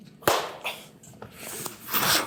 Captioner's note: slapping sound